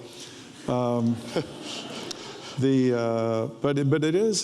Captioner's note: audience laughs